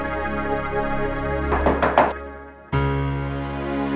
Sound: knocking on door; suspenseful music

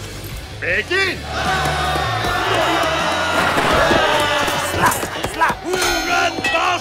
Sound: shouting

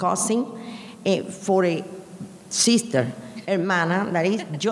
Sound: speaking in a foreign language

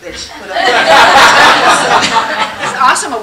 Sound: laughter

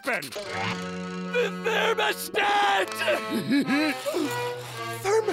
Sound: laughs

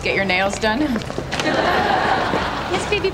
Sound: audience laughing

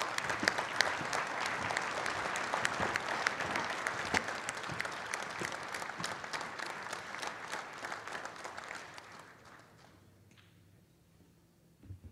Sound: applause

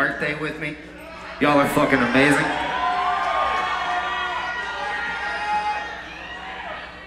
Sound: crowd cheers

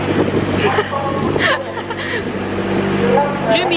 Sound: woman on the speaker in Norwegian

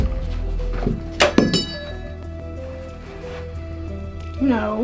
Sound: bell sounds

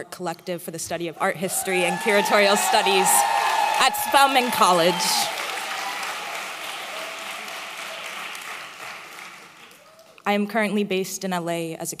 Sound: applause

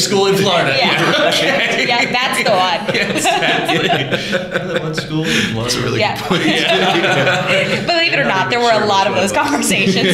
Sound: laughter

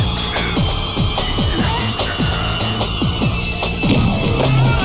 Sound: grunting

